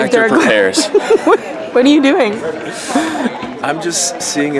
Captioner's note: laughing; laughs